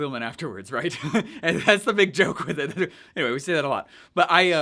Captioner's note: laughs